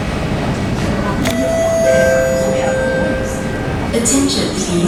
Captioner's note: station chime plays in background